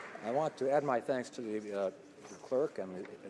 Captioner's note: some Applause